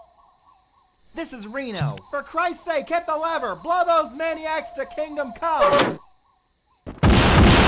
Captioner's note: fbi on radio